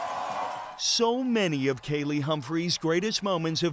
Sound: cheers and Applause

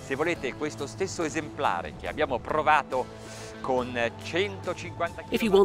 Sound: speaking in foreign language

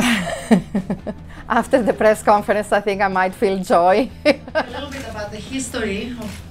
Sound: laughs; laughs

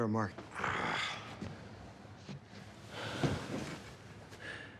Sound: Rufus groans

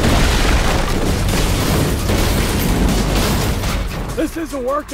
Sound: glass shattering

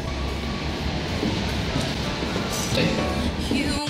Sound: none

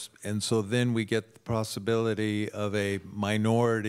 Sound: none

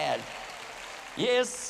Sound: applause

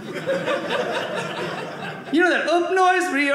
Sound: audience laughing

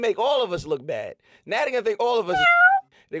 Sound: meow

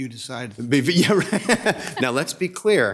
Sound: laughs

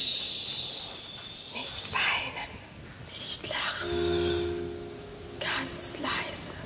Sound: whispers

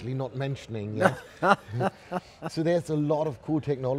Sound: laughing

